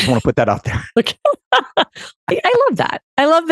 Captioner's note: laughs